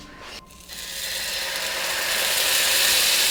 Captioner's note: pan sizzling